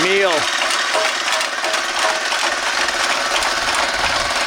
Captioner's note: rocks pattering